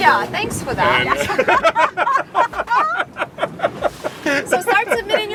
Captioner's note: people laugh